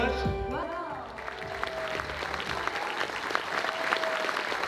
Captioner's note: audience applauds